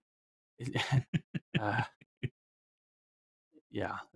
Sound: laughs

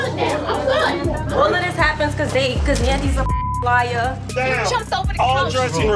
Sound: beep

